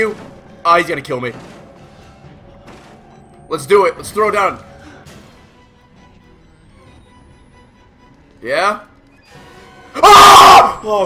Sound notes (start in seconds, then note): 6.3 beep beep